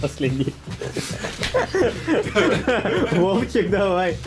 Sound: laughing

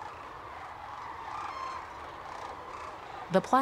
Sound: birds whooping

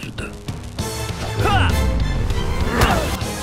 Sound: screaming

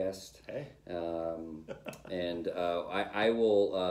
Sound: laughter

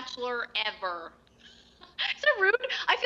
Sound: laughs

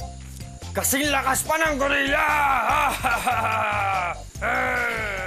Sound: laughs

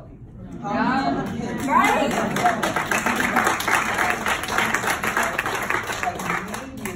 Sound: clapping

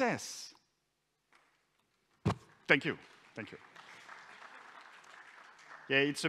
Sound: applause

